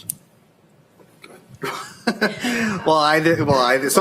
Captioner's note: laughter